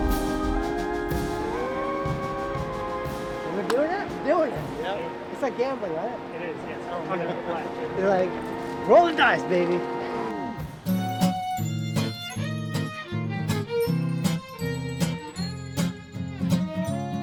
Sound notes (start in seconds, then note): 0.0 thunder crashes; 0.8 bright music; 13.7 playful music